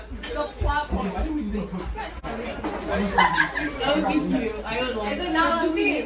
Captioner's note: laughs